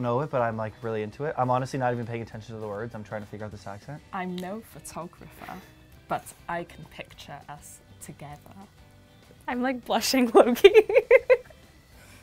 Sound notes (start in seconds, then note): 10.6 laughing